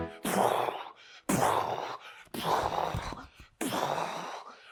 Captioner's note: Peter makes explosive noises